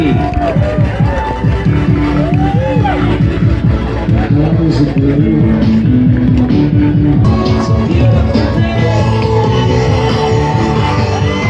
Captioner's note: cheering